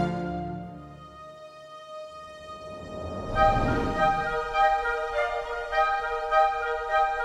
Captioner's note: dramatic music; air whooshing